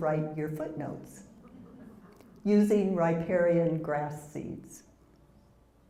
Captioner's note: laugh